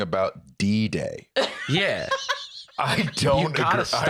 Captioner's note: laughs